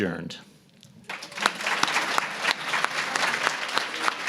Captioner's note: applause